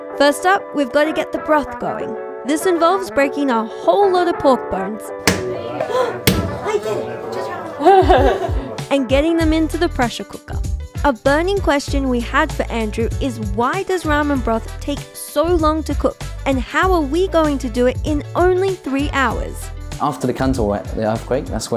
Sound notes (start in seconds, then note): 5.2 hammer thuds